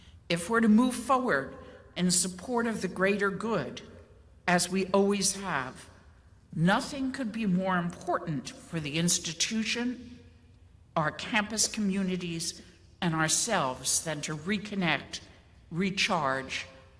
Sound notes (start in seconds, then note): none